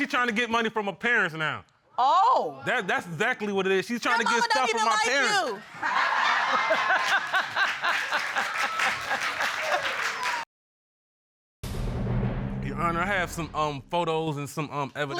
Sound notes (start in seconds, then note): 5.5 audience laughing; 6.5 Judge Lake laughing